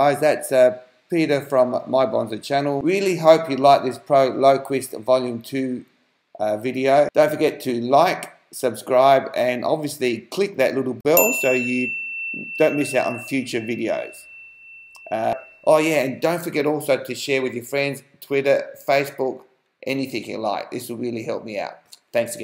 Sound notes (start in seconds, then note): 11.1 bell sound